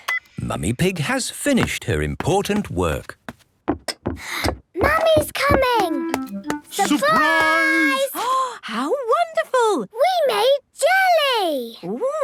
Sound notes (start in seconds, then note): 1.5 footsteps approaching; 8.6 gasps